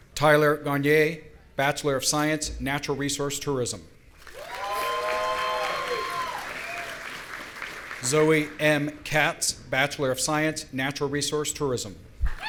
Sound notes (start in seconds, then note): 4.3 audience cheering